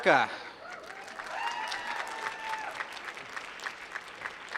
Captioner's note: applause